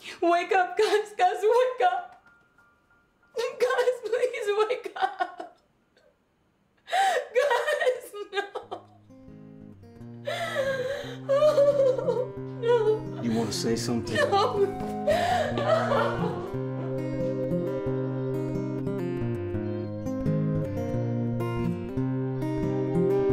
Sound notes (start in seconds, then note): 6.8 sobbing; 10.2 sobbing